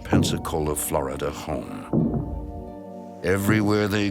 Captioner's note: thudding